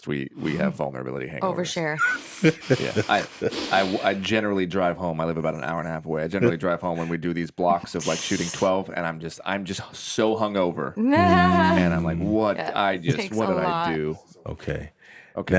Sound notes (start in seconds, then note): 1.8 laughs; 12.8 laughs